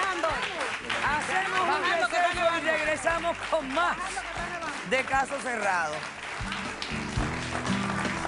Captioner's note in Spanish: Aplausos